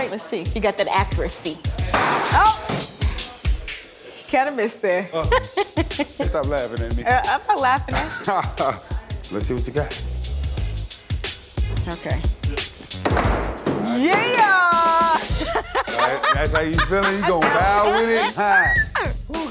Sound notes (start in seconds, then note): 14.6 laughs